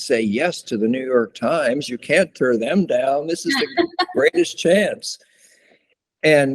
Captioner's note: laughter